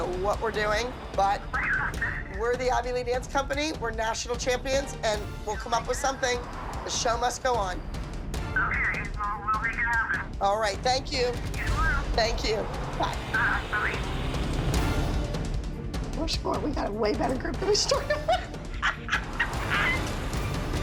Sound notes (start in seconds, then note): 7.3 on phone; 10.5 on phone; 13.2 on phone